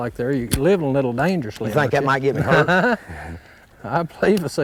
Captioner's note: laughter